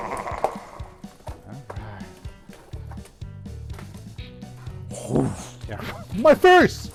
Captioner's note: mimicing fire sounds